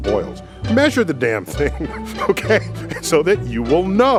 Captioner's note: Neil laughs